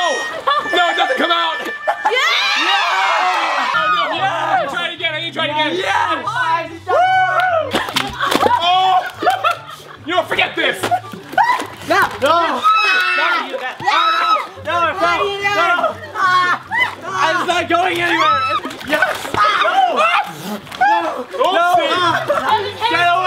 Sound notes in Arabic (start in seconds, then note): 2.3 هتافات سعيدة; 7.7 يضحك; 13.1 تصراخ; 19.4 يصرخ